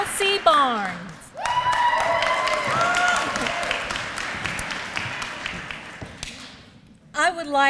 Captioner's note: applause